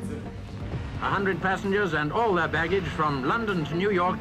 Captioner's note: radio voice